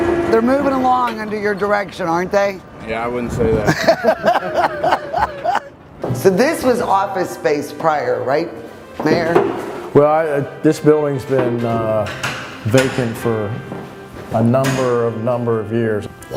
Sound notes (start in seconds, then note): 3.6 laughing